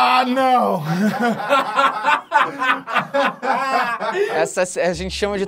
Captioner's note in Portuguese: risadas